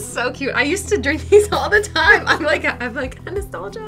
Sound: laughs

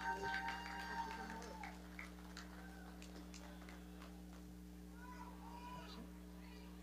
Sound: audience cheering; audience clapping

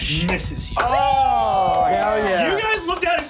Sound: all exclaiming

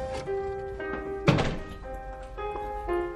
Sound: door closing

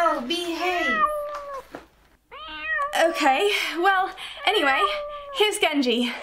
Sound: misy mewing

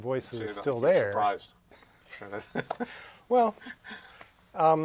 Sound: laughter

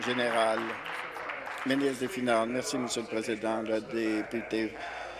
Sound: applause

